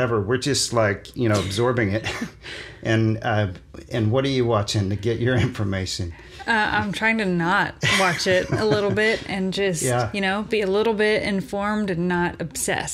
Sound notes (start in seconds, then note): 1.3 laughs; 7.8 laughs